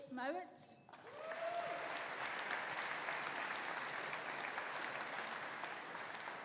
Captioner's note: audience applauding; audience cheering